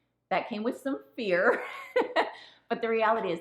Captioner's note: woman laughing